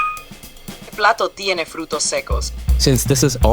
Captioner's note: in Spanish